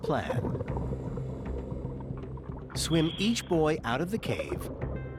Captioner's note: water burbling